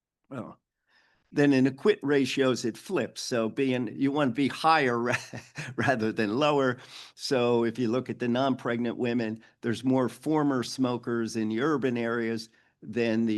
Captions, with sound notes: Then in the quit ratios it flips. So being you wanna be higher rather than lower. (chuckles) So if you look at the non-pregnant women, there's more former smokers in urban areas